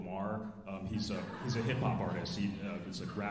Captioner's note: alumni laughing